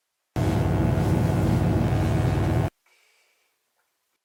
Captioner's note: electric buzzing